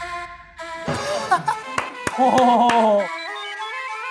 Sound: bursts out in laughter

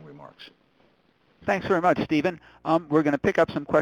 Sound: voiceover

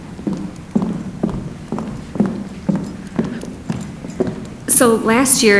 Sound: foot steps approaching

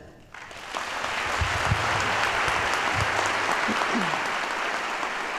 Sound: audience applauds

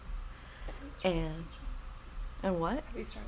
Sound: background whispers

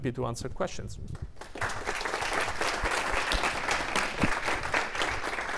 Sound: audience applauds

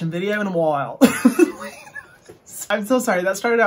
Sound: chuckles

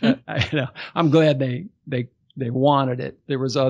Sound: laughs

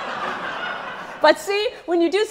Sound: audience laughs

